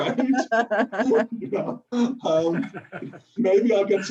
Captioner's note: laughs